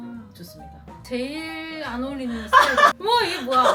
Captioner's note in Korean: 웃음